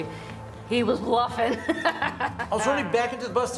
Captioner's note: laughter